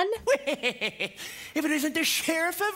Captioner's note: Prince John snickering